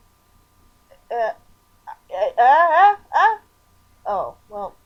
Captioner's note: stammering